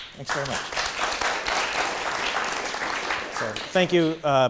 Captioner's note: audience clapping